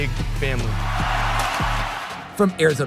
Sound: crowd cheering

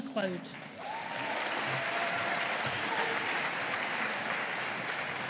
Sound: audience applauding

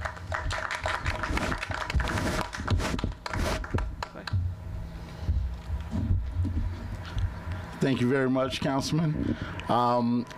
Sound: applause

